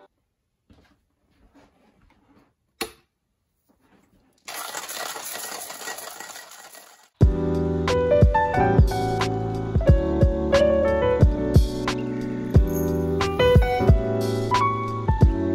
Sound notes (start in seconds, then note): 4.4 grinding asmr